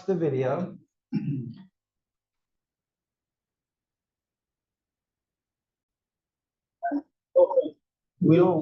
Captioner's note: cough